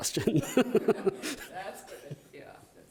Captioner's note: all laughing